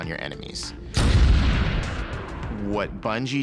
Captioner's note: gunshot